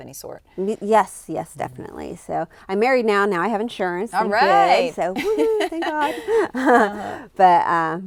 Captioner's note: laughter